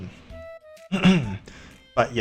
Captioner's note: cough